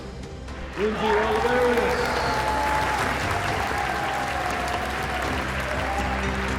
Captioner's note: applause